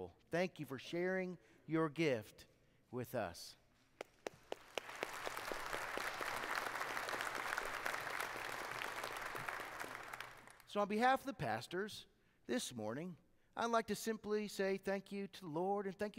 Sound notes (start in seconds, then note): 4.2 congregation applauding